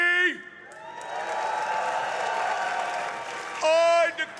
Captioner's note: audience applauding; audience cheering